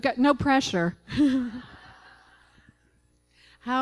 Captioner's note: laughter